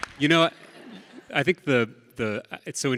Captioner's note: audience laughs